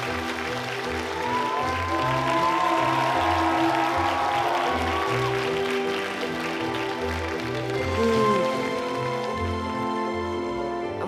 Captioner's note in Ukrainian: оплески